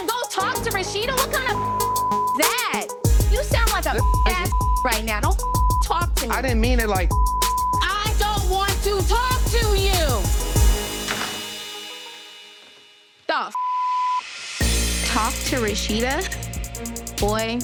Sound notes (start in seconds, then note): 1.5 beep; 4.0 beep; 10.6 dramatic music; 10.7 door slams; 13.5 beep